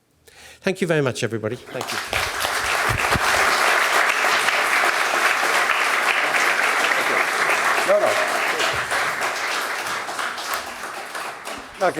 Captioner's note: applause